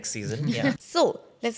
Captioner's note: laughs